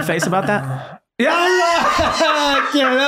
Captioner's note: everyone laughing